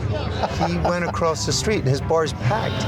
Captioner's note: chuckling